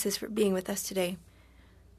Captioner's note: speaking French